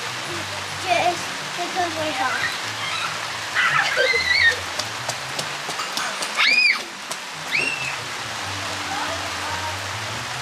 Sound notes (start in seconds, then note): 3.5 screaming